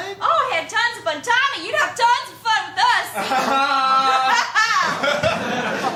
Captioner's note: laughs awkwardly